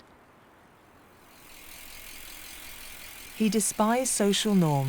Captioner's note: bike reflector clicking